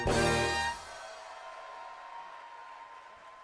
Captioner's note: audience cheering